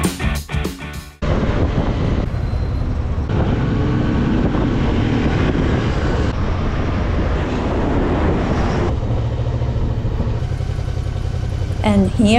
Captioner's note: rock music; motorbike engine